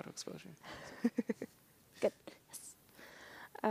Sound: laughing

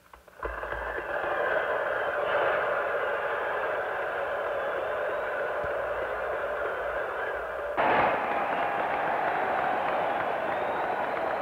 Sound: clapping

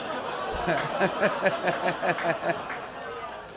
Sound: audience laughs & groans

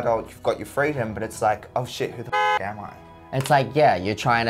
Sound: car honks

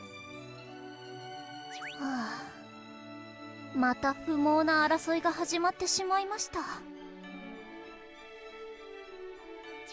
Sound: sigh

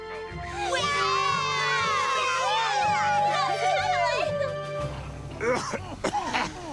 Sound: cheering; Principal Warner, Bob coughing

